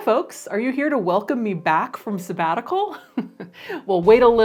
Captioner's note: chuckles